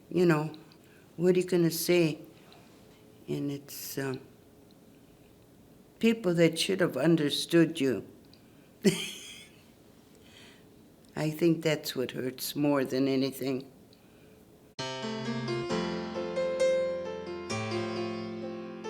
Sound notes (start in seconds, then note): 8.8 laughs